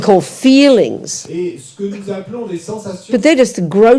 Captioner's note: audience member speaks in French